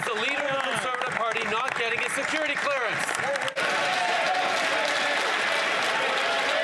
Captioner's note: some Applause